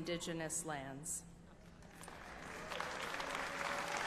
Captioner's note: applause